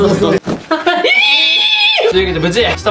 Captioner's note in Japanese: 奇声